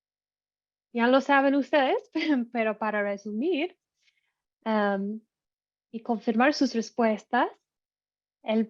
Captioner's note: risas